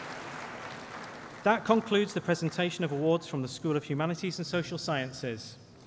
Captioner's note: applause